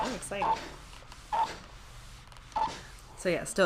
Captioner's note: iron squeaks